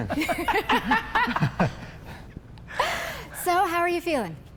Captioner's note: all laughing